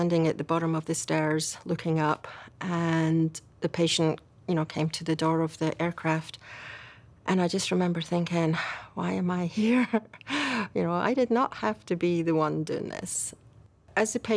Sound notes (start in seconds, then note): none